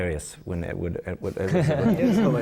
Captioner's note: laughter from the panel